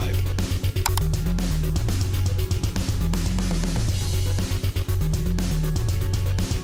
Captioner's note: energetic music; cursor clicks